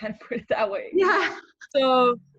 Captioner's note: laughing